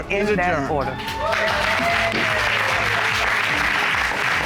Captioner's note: audience cheering